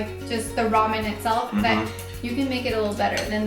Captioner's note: humming